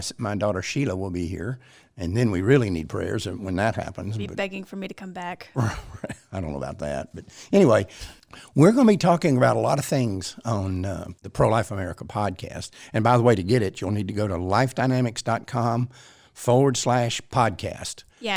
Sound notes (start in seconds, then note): 5.5 laughs